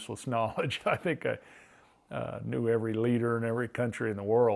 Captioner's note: laughs